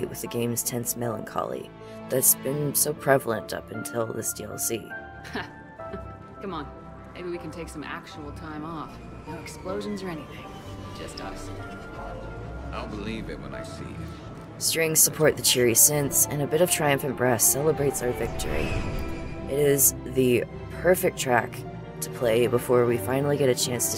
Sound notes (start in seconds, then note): 5.2 laughs